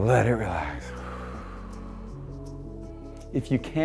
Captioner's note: exhales sharply